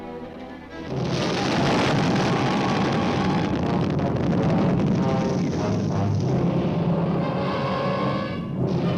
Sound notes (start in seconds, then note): 0.0 dramatic orchestral music; 0.9 explosion booming